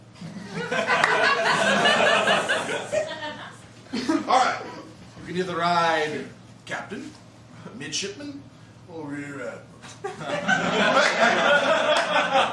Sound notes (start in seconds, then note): 0.4 laughter; 9.8 laughter